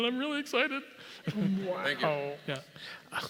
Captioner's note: laugh